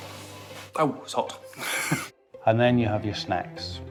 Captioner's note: laughing